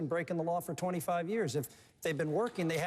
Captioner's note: applause